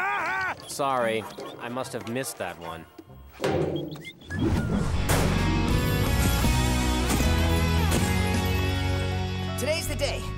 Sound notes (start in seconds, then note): 3.4 thudding, whistling